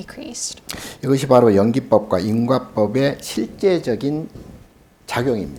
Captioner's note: speaking Korean